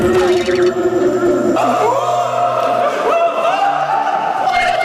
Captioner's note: only odd screams are being exchanged